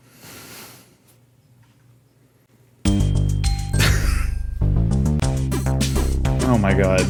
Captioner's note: emotional chuckle